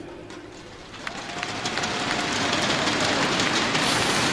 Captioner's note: crowd cheering